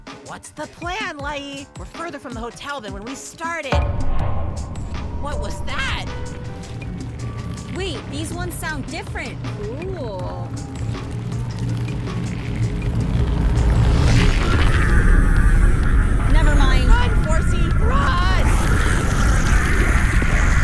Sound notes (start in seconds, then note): 3.7 thud; 6.2 booming sounds